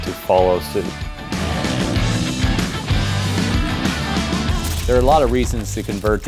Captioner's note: engines Roaring